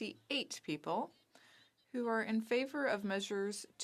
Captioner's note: speaking French